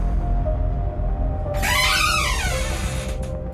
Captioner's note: creaking